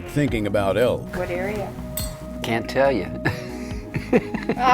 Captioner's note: laughs